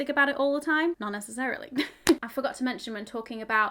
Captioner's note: chuckles